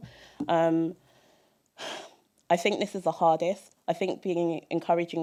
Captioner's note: sigh